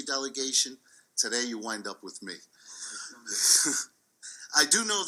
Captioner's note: laughs